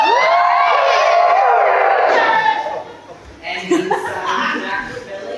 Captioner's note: laughter and whoops